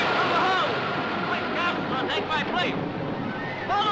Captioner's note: men shouting